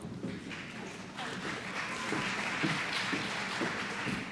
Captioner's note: applause